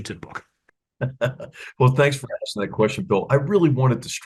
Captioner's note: laugh